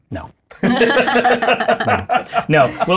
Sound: laughter

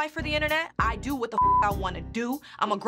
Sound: beep

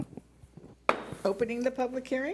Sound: gavel bangs

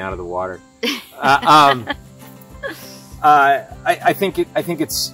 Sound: laughs

